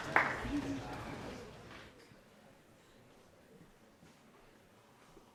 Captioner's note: cheering